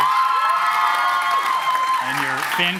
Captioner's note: applause, cheering